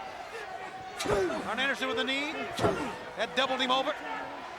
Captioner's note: crowd clamoring; wrestlers grunting; crowd clamoring